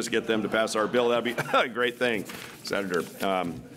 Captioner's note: coughs; clears throat